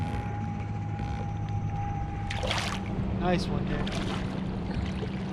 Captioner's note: fish splashing